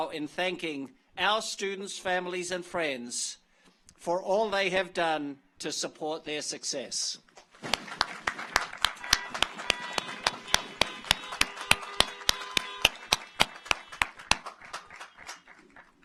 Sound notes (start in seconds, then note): 7.7 audience applauds; 8.9 car horns honking